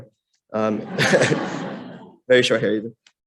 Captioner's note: laughter